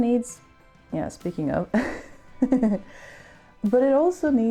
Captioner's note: chuckle